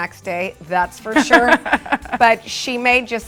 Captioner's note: laughter